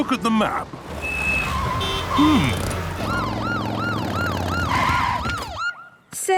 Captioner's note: honking, sirens